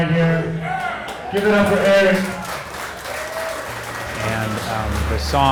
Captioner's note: clapping and cheering